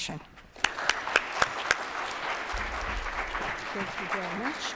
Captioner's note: applause